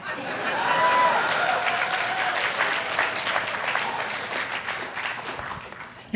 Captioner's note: audience cheer and applaud